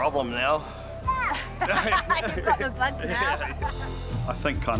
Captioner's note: both laugh